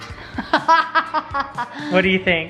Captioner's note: laughing